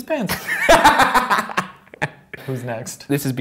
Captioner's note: laughter